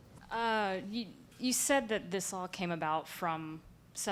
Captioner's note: voiceover